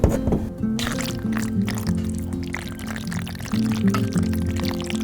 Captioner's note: paint squishing